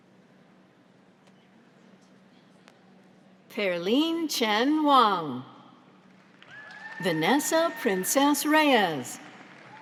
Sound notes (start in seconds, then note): 6.4 audience applauds